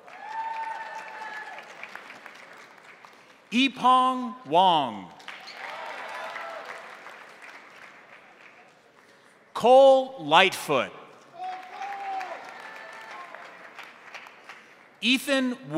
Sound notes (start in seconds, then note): 0.0 crowd cheering; 0.0 crowd applauding; 5.1 crowd applauding; 5.3 crowd cheering; 11.3 crowd cheering; 11.3 crowd applauding